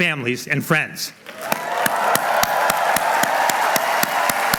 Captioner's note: applause